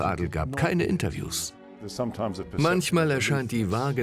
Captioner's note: voiceover